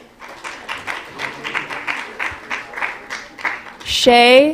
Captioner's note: applause